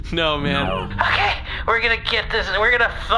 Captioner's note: slurring words together